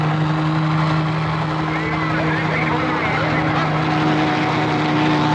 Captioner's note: chattering